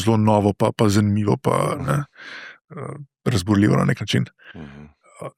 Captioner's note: coughing